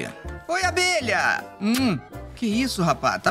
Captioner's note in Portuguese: som de beijo